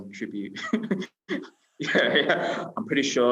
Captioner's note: laughing